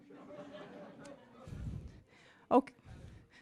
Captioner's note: distant laughing